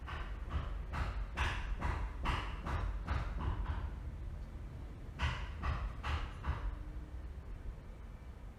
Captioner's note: hammering